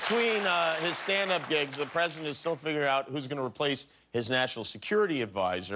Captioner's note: applause